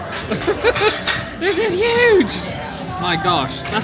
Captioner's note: laughs